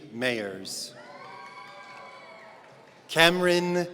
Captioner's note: audience cheering